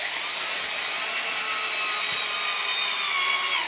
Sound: high-pitched whirring

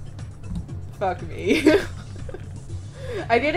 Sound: laughs

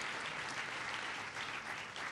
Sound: applause

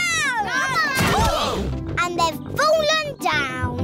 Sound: all groan

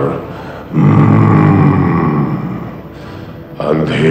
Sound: grunts

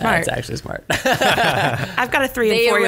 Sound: laughs

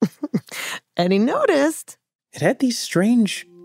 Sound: giggles

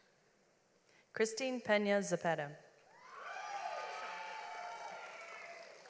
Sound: audience applauds

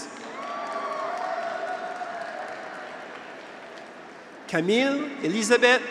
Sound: graduates cheer; audience applauds

